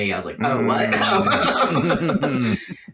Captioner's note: laughs